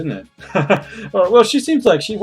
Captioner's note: laughs